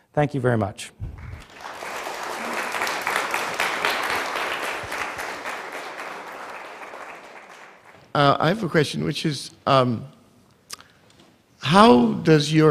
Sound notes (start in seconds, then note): 1.2 applause